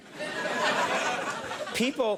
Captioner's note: crowd laughs